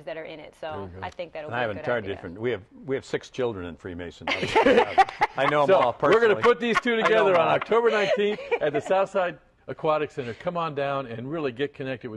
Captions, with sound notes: THAT ARE IN IT. SO. >> WE HAVE SIX CHILDREN IN FREE MASON. [ LAUGHS ] I KNOW. WE ARE GOING TO PUT THESE TWO TOGETHER ON OCTOBER 19 AT THE SOUTHSIDE AQUATIC CENTER. COME ON DOWN AND GET CONNECTED